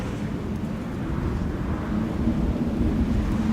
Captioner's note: wind blows